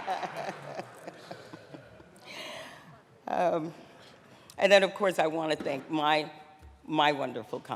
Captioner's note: laughter